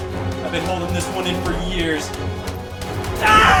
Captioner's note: screams; games whooshing